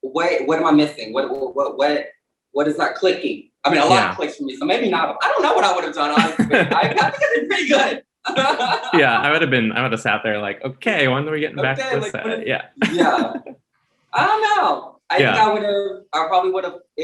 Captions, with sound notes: What am I missing? What is that clicky?" I mean, a lot of clicks for me so maybe not. I don't know what I would've done, honestly. (Symone laughs) - Yeah, I would've been, I would've sat there like, "Okay, I wonder when we'll get back to the set." (laughs) - Yeah. I don't know. I think I would have, I probably would have,